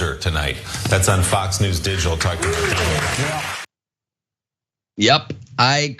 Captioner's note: applause